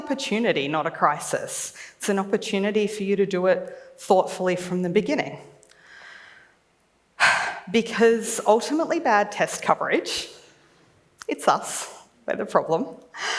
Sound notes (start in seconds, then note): 7.2 sighs